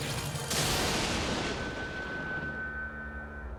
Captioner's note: lightning crashes